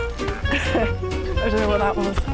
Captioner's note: laughs